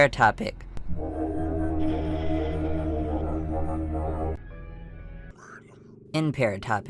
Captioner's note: distorted audio